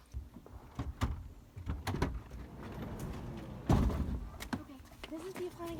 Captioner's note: doors clatter